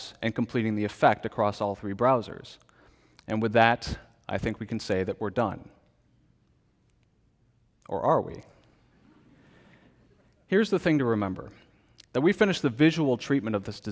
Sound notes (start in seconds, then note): 9.0 congregation laughs